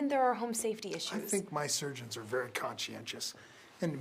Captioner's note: authoritatively